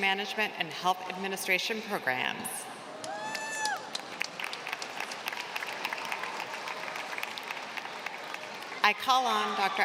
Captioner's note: applause